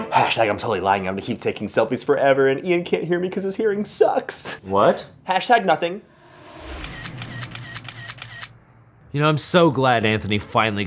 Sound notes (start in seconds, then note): 6.7 camera snaps repetitively